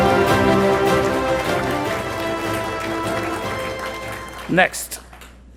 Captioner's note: attendees applauding